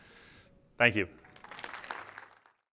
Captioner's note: applause